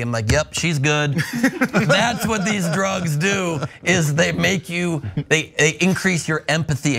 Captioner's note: laugh